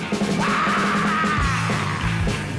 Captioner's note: screams